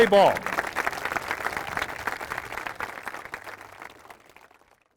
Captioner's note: applause